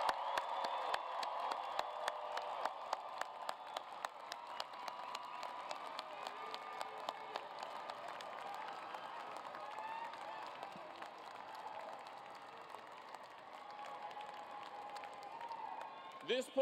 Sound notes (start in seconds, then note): 1.4 cheers and applause; 14.0 cheers and applause